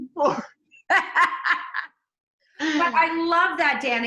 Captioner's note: laughing